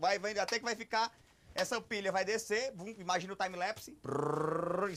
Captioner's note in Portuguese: ruído com a boca